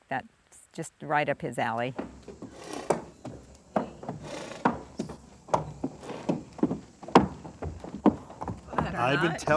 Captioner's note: steps thudding